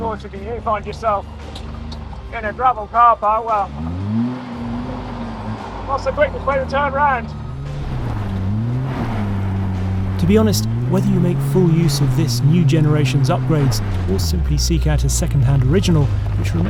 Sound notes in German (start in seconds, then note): 8.4 Knirschender Schotter; 8.4 Motor heult auf